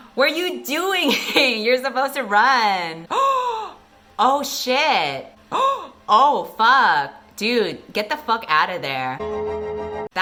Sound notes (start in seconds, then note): 5.3 𝘢𝘯𝘰𝘵𝘩𝘦𝘳 𝘨𝘢𝘴𝘱